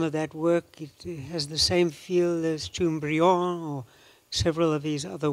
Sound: non-english

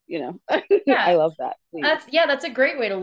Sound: laughs

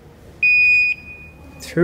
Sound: machine beeps

